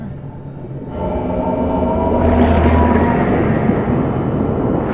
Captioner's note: engine roaring